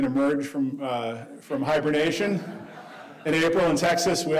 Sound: audience laughing

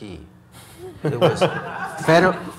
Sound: audience laughs

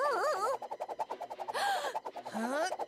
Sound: gasping

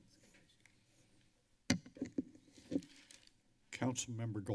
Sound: mic adjusting; paper rustling

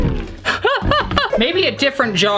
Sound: laughing

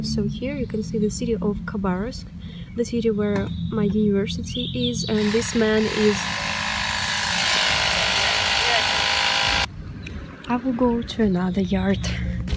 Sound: drill sounds

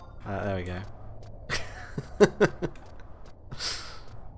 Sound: laughs

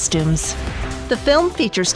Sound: air whooshing

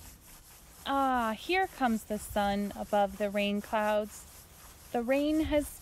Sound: swishing sounds

